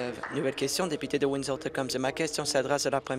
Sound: applause

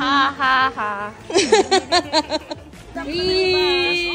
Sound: laughs

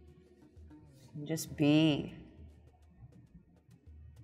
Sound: none

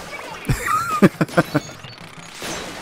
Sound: laughs

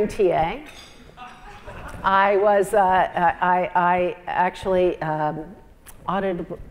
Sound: laugh

